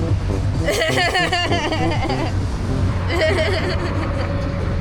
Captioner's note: charming laughter